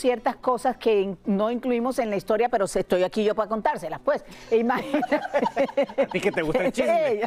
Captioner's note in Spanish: risas